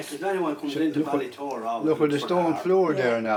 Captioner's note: voiceover